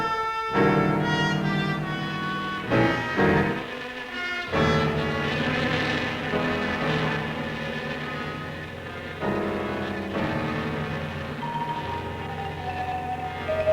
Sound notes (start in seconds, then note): 4.1 buzzing